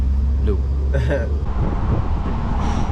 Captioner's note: chuckles